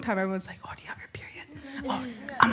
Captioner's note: whispering